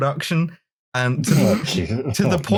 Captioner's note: snorts